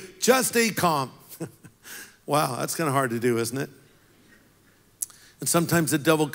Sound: laughs

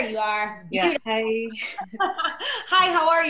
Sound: laughter

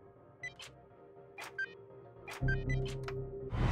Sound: beeping; intense music

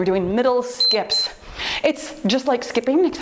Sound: timer beeps

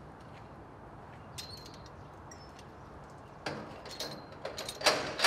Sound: gate chimes; gate squeaking and clanking

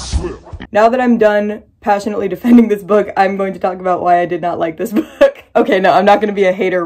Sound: funky music; laughing

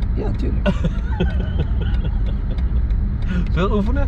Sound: laughing

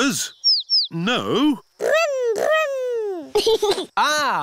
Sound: giggles

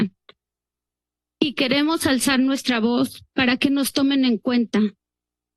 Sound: speaks in Spanish; speaks in Spanish

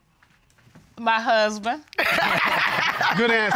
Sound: laughs

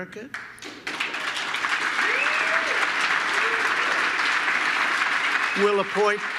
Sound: applause

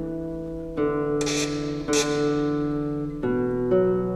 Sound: chord; squeaking noise; gentle guitar music

